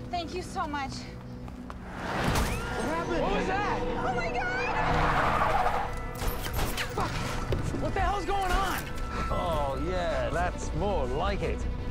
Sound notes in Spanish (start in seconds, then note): 2.1 Gritando; 4.6 Neumáticos chirriando; 6.2 Disparos